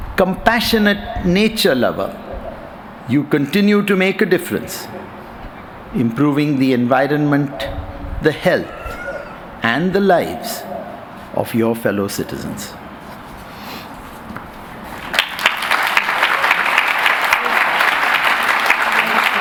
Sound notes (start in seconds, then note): 14.9 applause